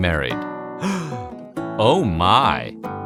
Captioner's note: gasp